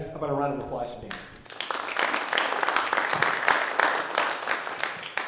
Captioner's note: audience applauding